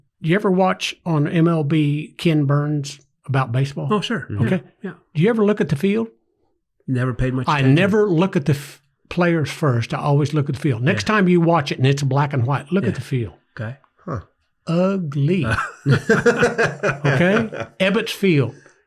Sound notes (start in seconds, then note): 15.4 everyone laughs